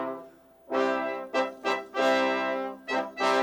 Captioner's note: none